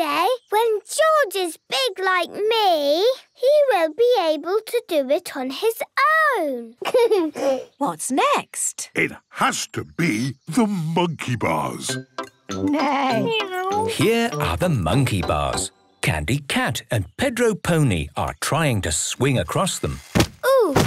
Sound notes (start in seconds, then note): 6.8 giggles